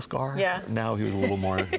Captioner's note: laughing